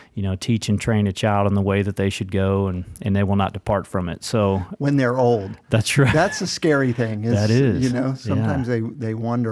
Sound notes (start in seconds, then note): 5.8 chuckles